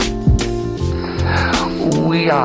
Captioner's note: mouth inhale